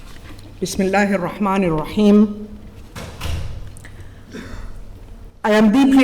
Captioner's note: speaking in foreign language